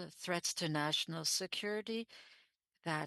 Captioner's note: speaking French